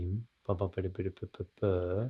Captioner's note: mumbles